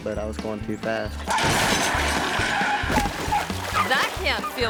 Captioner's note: table crashes